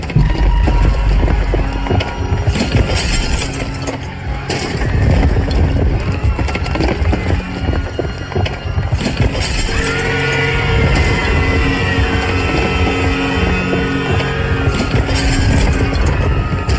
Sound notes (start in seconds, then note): 0.2 remote beeping; 2.1 people screaming; 2.5 glass shattering; 9.2 building crashing